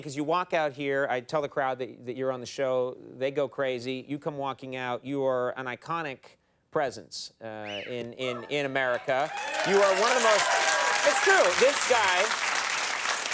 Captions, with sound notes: cause you walk out here. I tell the crowd that you're on the show. They go crazy. You come walking out. You are an iconic presence in America. (audience cheering) You are one of those-- It's true, this guy,